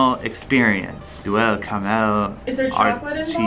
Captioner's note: reading in French